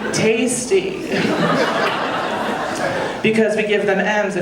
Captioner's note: audience laughing